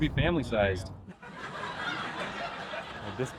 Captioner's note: sympathy Laugh Track